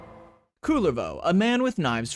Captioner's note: Law and Order noise